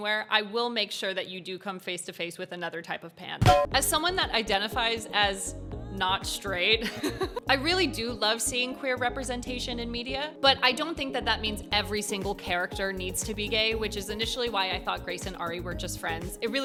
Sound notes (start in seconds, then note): 6.8 chuckles